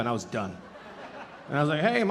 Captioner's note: audience laughing